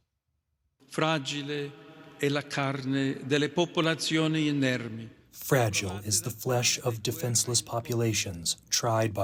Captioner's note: through translator